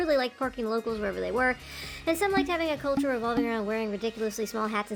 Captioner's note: deep breath